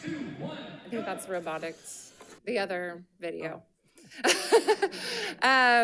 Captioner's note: laughs